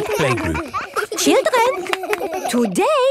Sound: all laughing

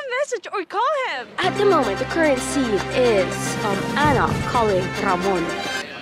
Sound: breaking news sound effects

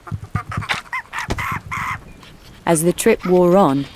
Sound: monkeys screeching

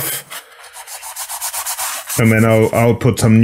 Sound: sandpaper scratches

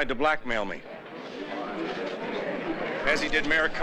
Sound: reporters talking

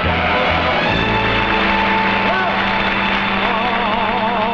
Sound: audience clapping

